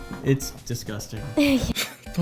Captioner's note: giggles